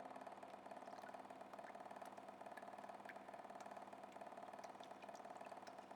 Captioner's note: water drips and falls